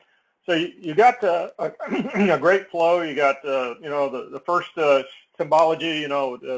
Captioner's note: cough